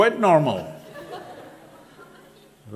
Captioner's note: laughter